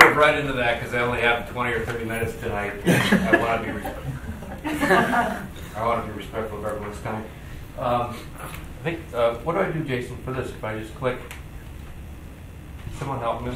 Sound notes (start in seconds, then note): 2.8 group laughing